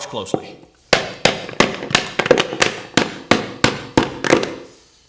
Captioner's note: loud banging